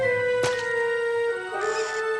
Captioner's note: splat